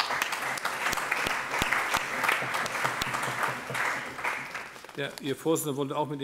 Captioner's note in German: Allgemeiner Beifall